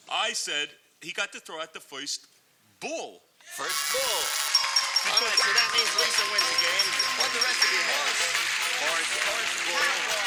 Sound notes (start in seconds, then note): 3.7 buzzer